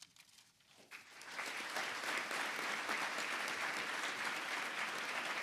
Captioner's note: audience applauding